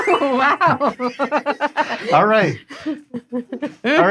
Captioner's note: laughing